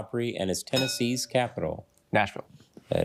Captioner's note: bell dings